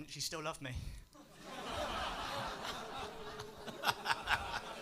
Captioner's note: laughter